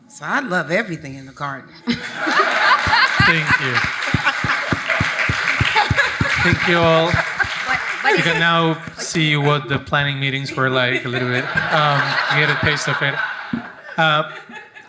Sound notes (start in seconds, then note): 2.2 audience applauding; 5.0 audience applauding; 12.1 audience laughs